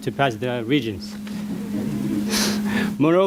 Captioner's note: audience laughing